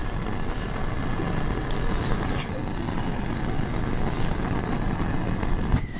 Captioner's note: burning